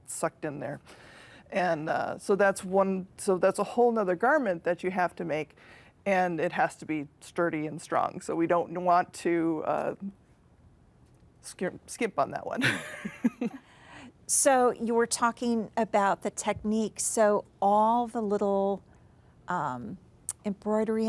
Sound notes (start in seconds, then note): 13.5 laughs